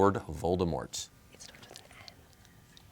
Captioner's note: whispers